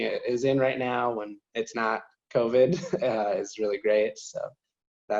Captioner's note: chuckles